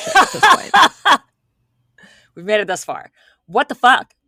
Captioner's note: laughing